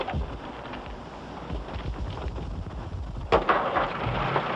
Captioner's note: engines rumble